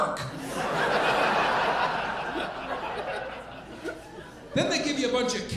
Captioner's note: audience laughing